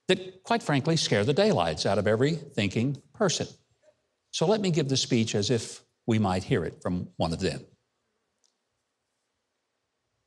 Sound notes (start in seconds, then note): none